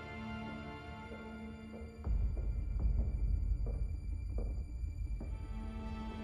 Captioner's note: dark orchestral music; footsteps clack